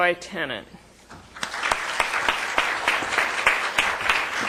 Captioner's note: applause